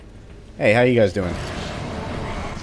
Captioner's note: woosh